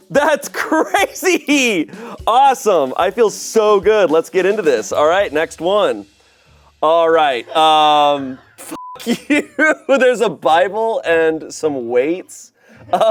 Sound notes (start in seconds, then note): 8.6 beep